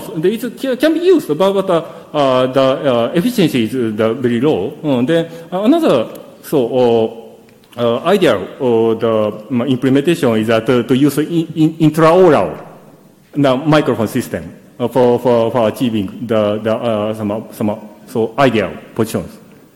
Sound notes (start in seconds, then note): none